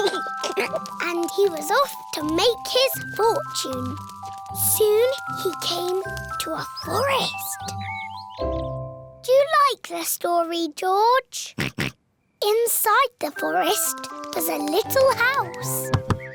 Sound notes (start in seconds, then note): 0.0 giggles; 11.6 oinks